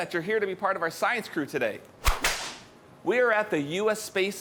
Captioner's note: whip clapping